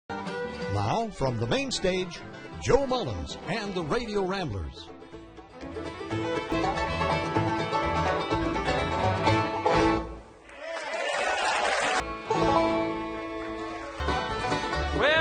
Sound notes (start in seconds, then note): 10.5 applause; 10.8 banjo solo